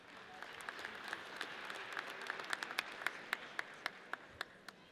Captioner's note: audience applauds